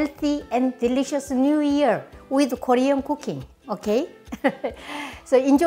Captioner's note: laughs